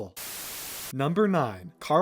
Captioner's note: static